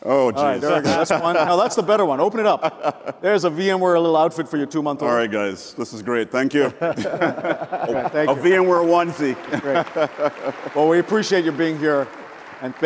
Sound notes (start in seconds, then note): 0.6 laughs; 9.7 audience applauds